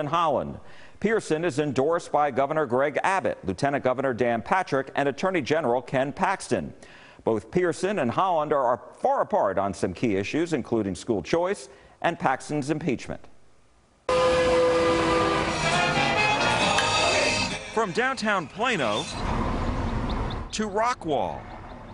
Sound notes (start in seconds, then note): 14.1 tram horn blowing; 16.5 upbeat music; 17.4 glasses clinking